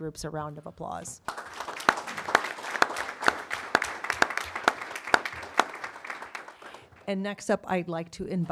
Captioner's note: applause